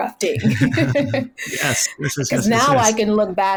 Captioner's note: all laugh